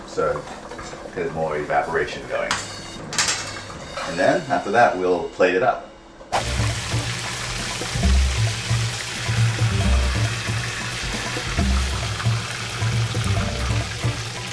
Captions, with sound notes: So there's more evaporation going. And then after that we'll plate it up. [oil sizzling]